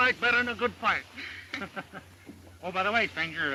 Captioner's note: Bob and Mary laugh